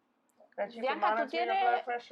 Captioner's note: in foreign language